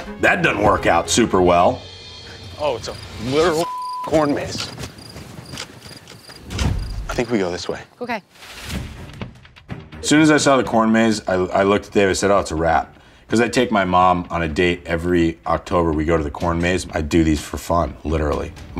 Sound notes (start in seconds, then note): 3.5 beeps; 9.5 dramatic music